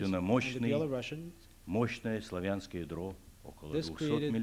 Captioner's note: non-english speech